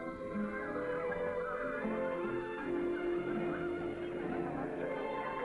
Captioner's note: gentle music; villagers chattering